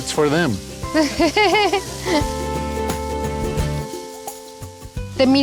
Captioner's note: laughs